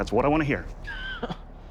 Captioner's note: suspenseful music; laughs